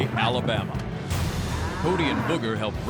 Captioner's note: cow mooing